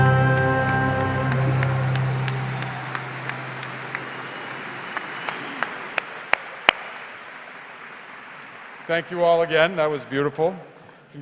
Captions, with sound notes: (audience applause) - Thank you all again, that was beautiful.